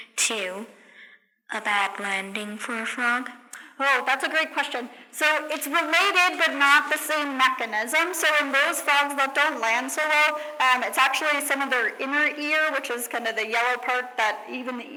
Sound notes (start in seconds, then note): none